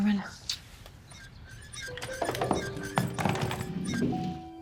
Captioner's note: blows a kiss; creaking